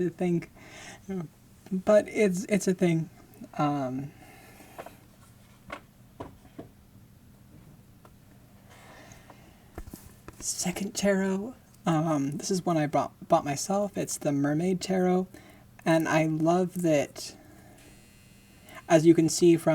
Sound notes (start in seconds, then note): 6.8 setting tarot box down